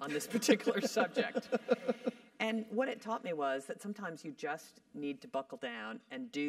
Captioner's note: laugh